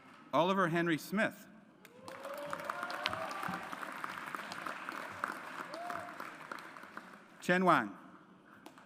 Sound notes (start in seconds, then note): 1.9 audience applauds